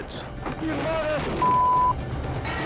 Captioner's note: beep